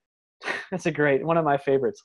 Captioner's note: laughs